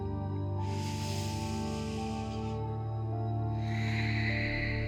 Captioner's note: calm music; inhales; exhales